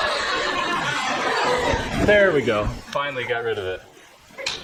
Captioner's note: laughter